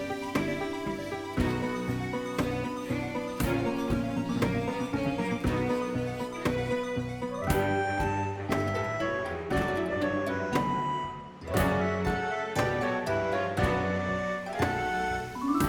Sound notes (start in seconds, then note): 8.9 desert winds blow